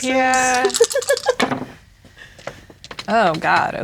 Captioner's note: others talking; laughing; dice rattling, then rolling